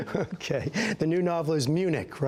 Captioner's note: laughter